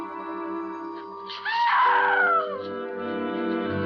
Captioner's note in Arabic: تصرخ السيدة هالوران